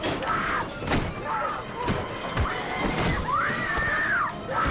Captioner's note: screams